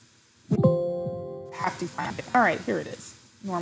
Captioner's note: Windows notification blares